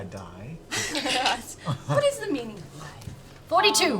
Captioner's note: laughs